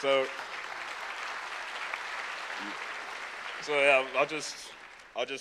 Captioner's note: applause